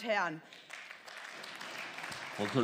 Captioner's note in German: Beifall